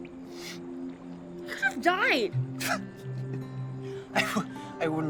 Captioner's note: chuckles